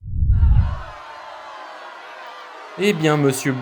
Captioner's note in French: foule en colère